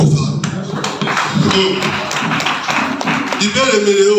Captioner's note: a round of applause